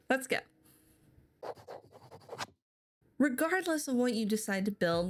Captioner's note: handwriting scribble sound effect